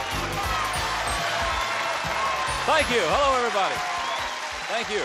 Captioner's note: applause